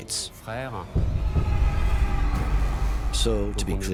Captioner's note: screams